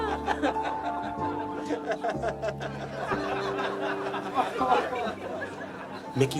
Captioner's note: gentle music; patrons laughing